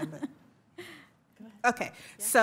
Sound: laughs

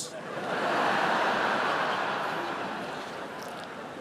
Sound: laughter

